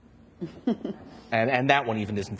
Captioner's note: and audience chuckles